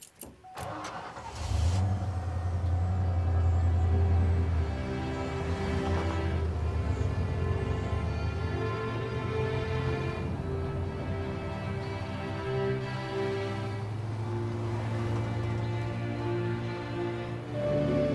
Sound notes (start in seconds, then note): 0.5 engine starts; 3.3 soft music; 14.6 soft music continues; 17.9 bright inspiring music